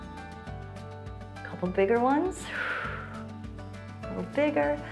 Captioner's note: exhales